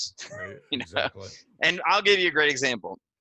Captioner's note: laughs